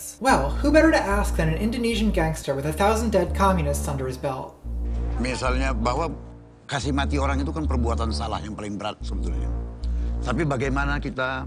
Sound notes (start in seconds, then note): 4.8 speaking Indonesian